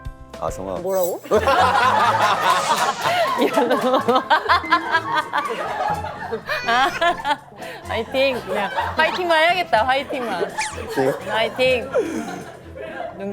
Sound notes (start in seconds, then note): 1.8 laughs; 6.5 crying